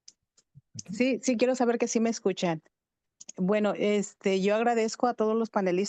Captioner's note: speaking in Spanish